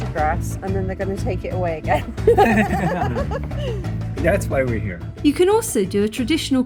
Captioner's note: laughing